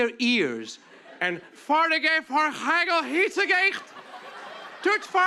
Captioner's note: speaking fake Dutch